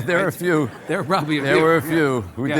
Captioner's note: laughs